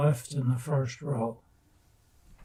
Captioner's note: pauses 6 seconds